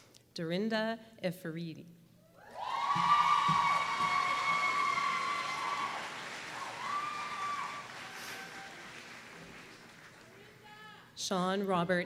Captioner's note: applause